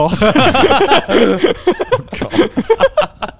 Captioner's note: laughs